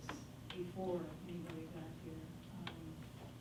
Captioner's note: faintly speaking